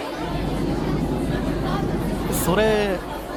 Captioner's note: chatter